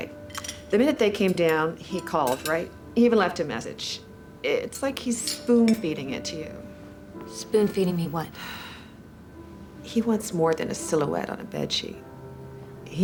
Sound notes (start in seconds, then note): 9.3 sighs